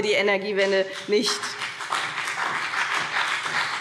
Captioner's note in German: Beifall BÜNDNIS 90/DIE GRÜNEN und vereinzelt CDU